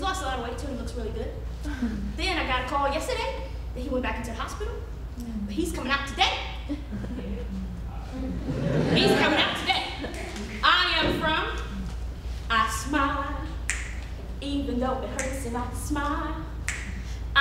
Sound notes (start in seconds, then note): 8.2 audience laughing